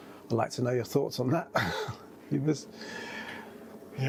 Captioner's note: laughs